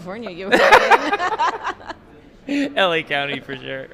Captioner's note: laughing